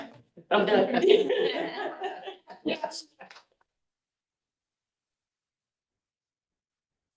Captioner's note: board members chattering and laughing